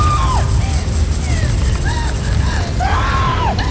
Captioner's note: shrieks; wind gushing; gasping; shrieks